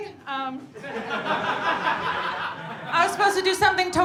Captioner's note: audience laughing